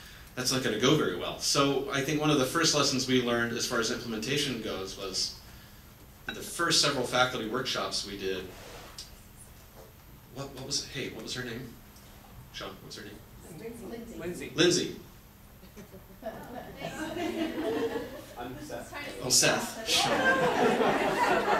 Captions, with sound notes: That's not gonna go very well. I think one of the first lessons we learned as far as implementation goes was the first several faculty workshops we did, what was it, hey, what was her name? Chump, what's her name? (audience murmurs) >>Lindsey. >>Lindsey. (audience laughs) >>I'm Seth, by the way. >>Oh, Seth, shhh! (audience laughs)